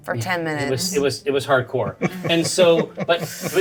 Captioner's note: Bobby laughing